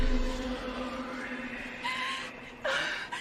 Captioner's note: voice whispering